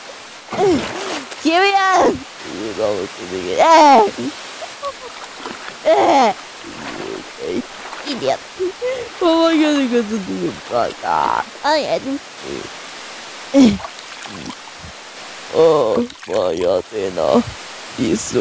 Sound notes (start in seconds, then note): 3.9 laughing; 5.7 Seiya grunting